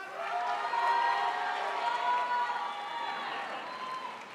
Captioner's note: crowd applauds